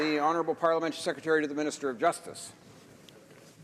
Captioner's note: some Applause